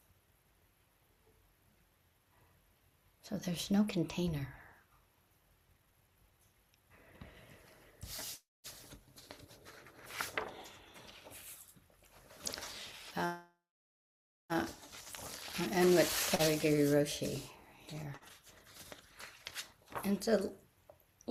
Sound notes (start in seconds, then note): 0.1 pause; 5.2 papers shuffle; 5.2 pause